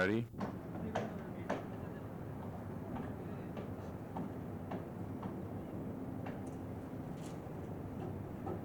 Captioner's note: hammering